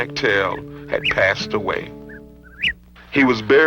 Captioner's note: birds chirping